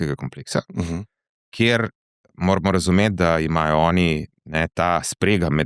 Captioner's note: sigh